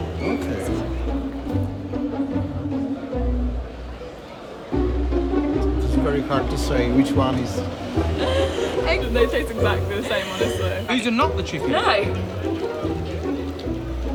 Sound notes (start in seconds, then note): 1.4 playful music continues; 7.6 laughs